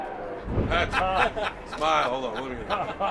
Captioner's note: laughs